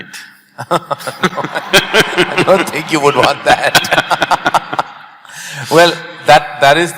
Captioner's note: laughter; both laugh